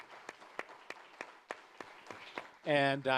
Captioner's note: audience applauding